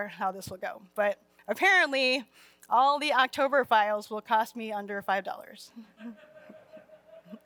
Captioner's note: laughter